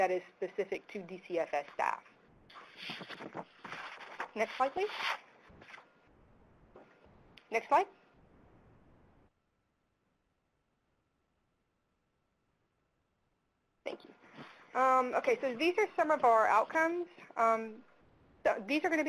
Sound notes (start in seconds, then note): 3.1 pause